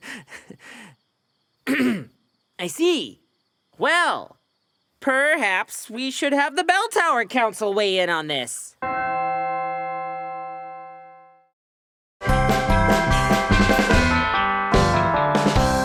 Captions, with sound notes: [CLEARS THROAT] I see. Well, perhaps, we should have the bell tower council weigh in on this. [DONG]